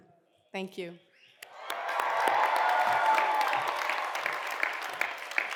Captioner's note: cheers and applause